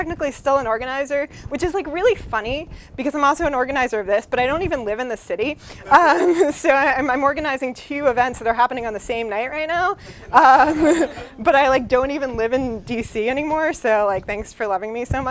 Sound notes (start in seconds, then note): 5.9 laugher